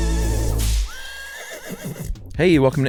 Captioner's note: horses whinnying